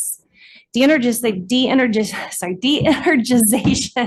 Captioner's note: laughing